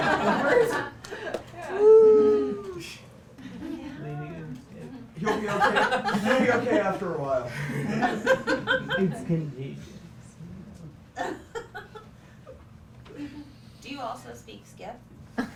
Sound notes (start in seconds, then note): 3.2 laughs